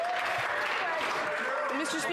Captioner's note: some Applause